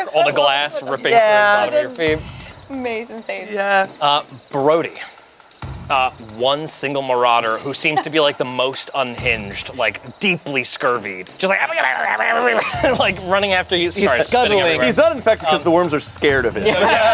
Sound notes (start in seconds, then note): 11.7 grumbles; 16.5 everyone laughs